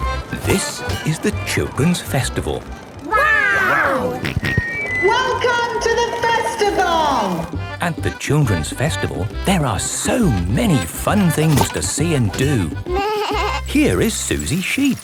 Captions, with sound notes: - This is the Children's Festival. Wow! - (on microphone) Welcome to the Festival! (jolly folk music) - At the Children's Festival, there are so many fun things to see and do. - Baaa! - Here is Suzy Sheep.